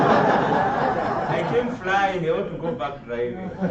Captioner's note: laughter